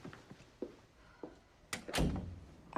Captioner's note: door closes